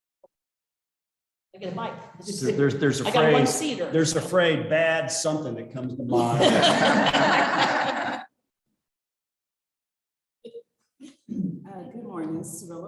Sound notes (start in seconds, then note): 5.9 chuckling